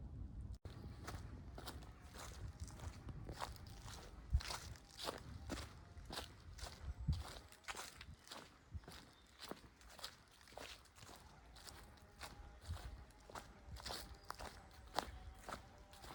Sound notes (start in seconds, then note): 0.6 footsteps